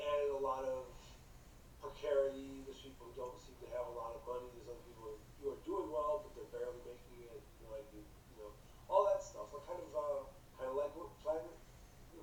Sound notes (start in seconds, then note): none